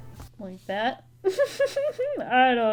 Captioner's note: laughs